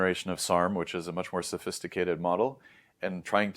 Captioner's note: inhales